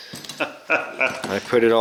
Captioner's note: laughing